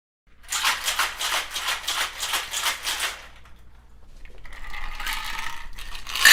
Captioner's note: sound of shaking and pouring drinks